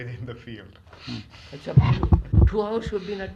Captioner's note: laughs